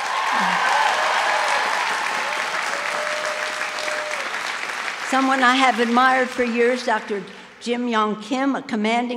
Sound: cheers and applause

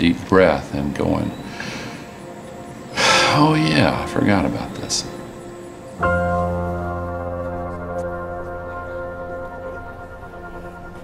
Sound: sigh

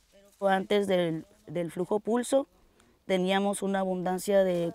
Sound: speaks Spanish

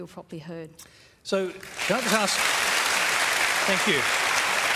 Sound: applause

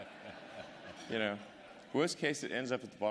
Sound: laughter

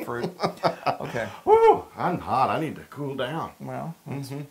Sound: laugh

